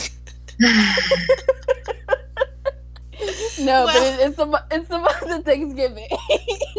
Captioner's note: continues laughing; long sigh